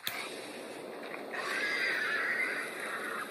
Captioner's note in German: fröhliche Drachengeräusche